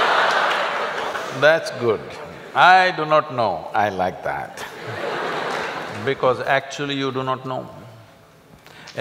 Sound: laughter; laughter

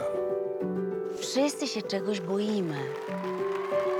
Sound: crowd cheering

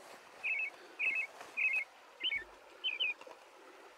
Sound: birds chirping

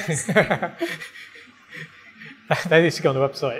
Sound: both laughing

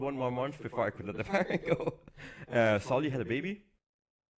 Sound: laughs

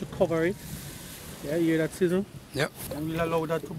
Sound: sizzling

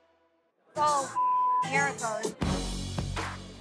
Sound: beep

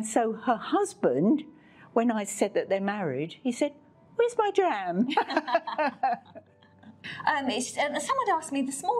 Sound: laughs

